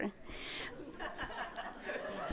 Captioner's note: laughter